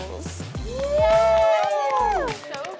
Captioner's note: cheering